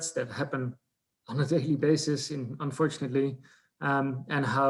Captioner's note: laughs